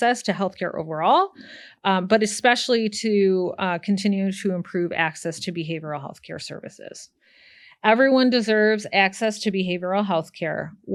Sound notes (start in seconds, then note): none